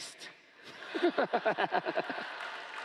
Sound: laughter

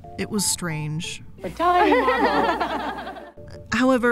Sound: audience laughing

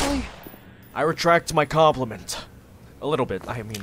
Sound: headcrab squeals

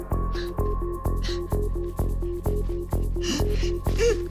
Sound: chuckling; laughing

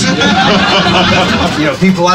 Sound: riders laugh

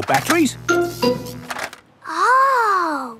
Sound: buzzing

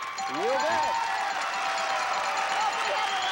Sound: audience applauding

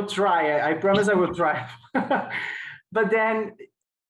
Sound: laughing

